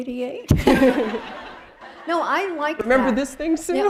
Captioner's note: laughter